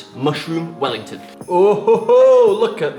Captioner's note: laughs